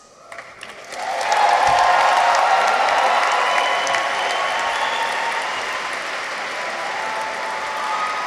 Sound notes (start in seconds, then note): 0.2 audience applauds; 0.3 audience cheers